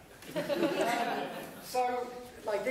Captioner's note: laughter